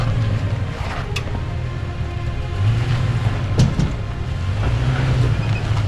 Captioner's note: engine revving